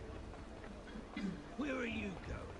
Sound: clears throat

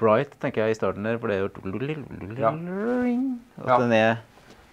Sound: humming

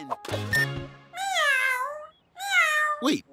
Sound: meowing

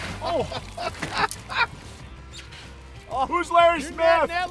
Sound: laughing

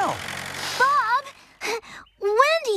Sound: panting

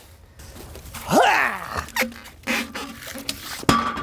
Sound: grunting

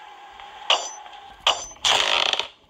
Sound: ground creaking; clank, clank

